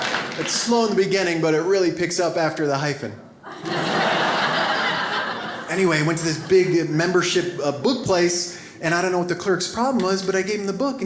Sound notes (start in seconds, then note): 3.4 audience laughs